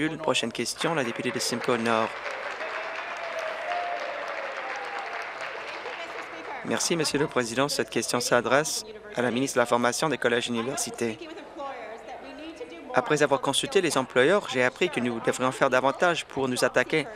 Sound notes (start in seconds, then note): 3.5 applause